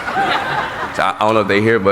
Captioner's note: laughing